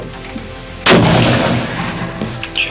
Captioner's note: gunshot